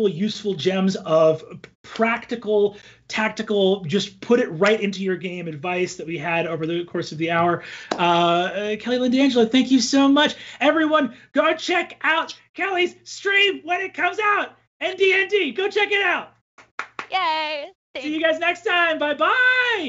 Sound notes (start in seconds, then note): 16.6 claps; 19.1 cheers